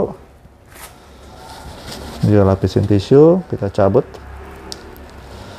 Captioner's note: tissues noise